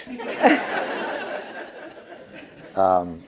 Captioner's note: laughter